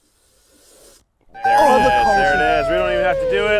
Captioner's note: group cheers